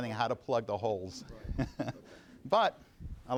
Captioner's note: laughing